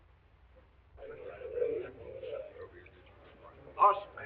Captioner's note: all chattering